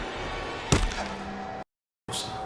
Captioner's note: dramatic music; mallet thuds